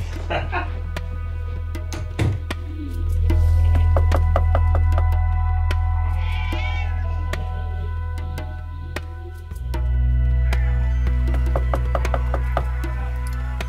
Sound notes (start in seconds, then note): 0.0 laughs; 3.8 knocking; 6.2 cat meows; 11.3 knocking